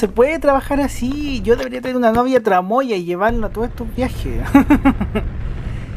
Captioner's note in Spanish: risas